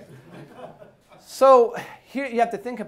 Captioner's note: class laughing